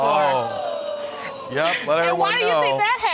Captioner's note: audience exclaiming